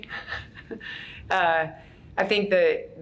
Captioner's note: laughs